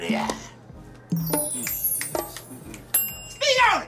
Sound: snaps fingers

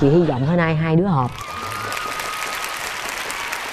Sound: audience applause

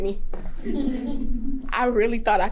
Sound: women laughing

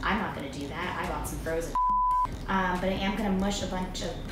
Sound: beep

